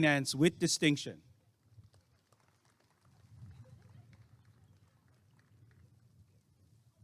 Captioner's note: applause and cheering